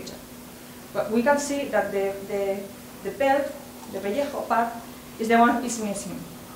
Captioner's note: spanish